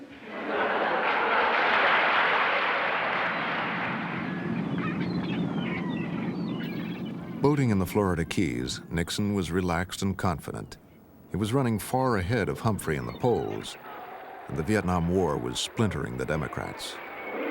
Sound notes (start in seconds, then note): 0.0 laughter and applause; 3.0 seagulls squawking